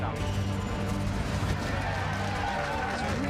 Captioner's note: cheering